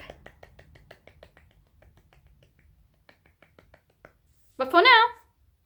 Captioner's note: happy claps of freedom